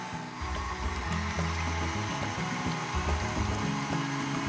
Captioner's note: mixer whirring